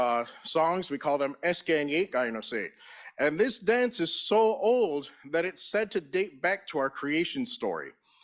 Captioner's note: in Native language